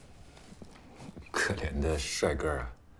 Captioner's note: Jian speaking in Mandarin